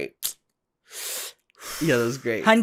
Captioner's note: puffs